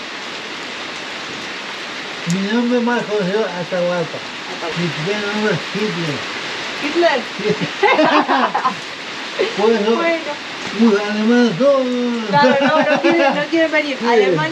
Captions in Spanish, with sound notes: - Iara, mi nombre más conocido es Atahualpa Mi primer nombre es Hitler - ¿Hitler? [risas] Por eso los alemanes me dicen: no no no - Claro, no quieren venir